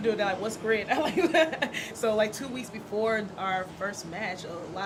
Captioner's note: laughs